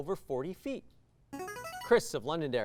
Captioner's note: signaling device tone